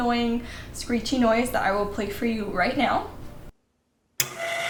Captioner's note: screeching